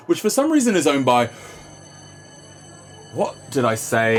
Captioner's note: fire alarm ringing